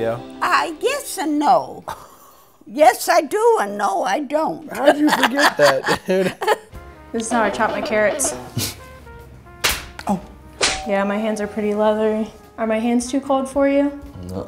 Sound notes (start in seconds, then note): 4.7 laughing; 8.6 client laughing; 9.6 hand slapping